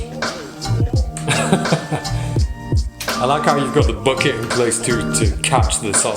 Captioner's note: laughs